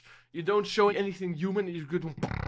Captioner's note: beatboxing